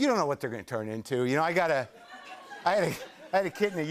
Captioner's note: laughter